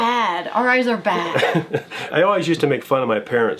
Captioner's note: laughing